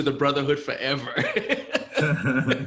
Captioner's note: laughs